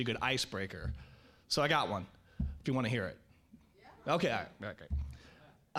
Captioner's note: audience agrees